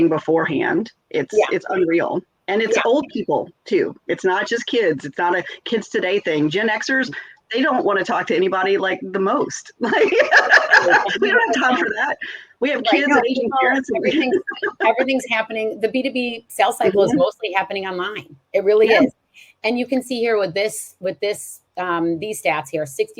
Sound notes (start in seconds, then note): 9.8 laughs; 14.5 laughs